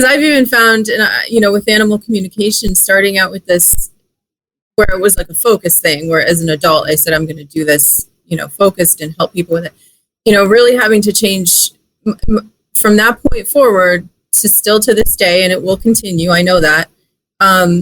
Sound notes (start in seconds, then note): none